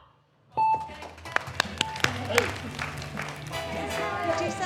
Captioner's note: beep! beep!; applause